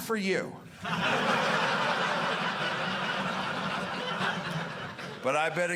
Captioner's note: audience laughing